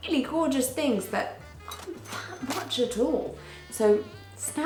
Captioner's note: cash register chimes